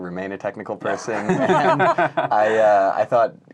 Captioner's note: laughing